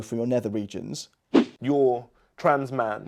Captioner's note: frame whooshing